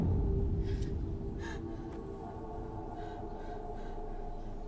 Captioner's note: eerie music; Maria gasps